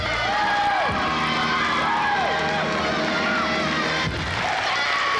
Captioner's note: cheers, applause